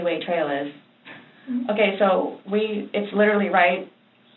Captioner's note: inquisitive sound